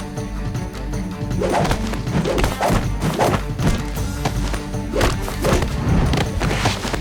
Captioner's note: blows thudding; air whooshing